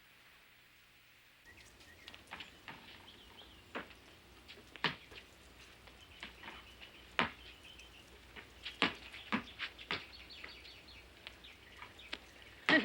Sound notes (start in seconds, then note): 1.8 birds whistling